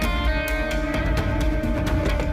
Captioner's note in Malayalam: none